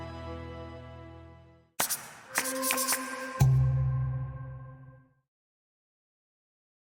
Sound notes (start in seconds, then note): 1.8 marker whooshing; 1.8 dramatic music